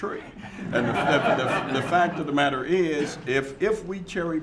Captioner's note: laughter